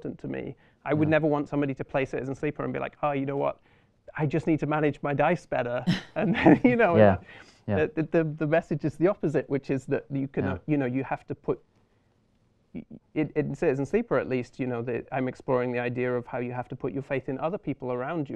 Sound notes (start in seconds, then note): 5.8 laughter